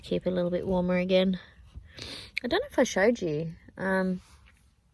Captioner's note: sniffs